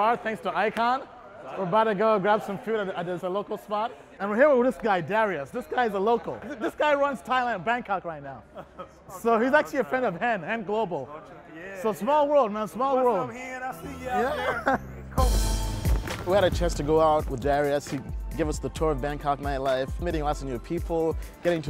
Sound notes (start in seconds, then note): 8.8 laughs